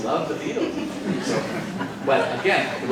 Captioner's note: participants laughing